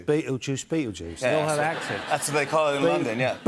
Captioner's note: laughter